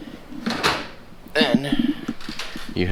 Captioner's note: washer door closes